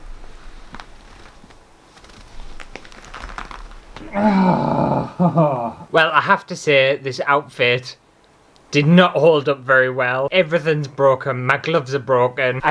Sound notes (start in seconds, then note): 3.9 groans!